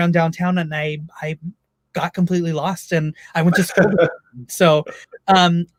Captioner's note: laughs